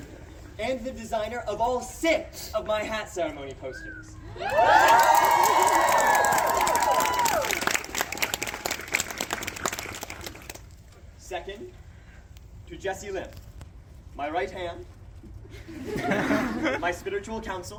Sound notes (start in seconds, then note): 0.1 crowd laughs; 4.3 crowd cheers; 15.5 crowd laughs